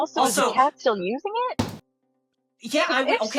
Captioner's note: graphic thudding